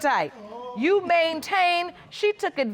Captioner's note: audience exclaiming